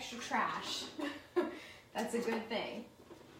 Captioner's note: laughs